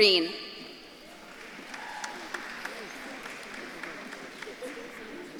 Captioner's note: audience claps and cheers